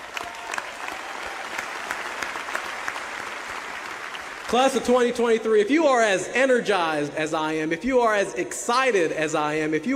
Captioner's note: applause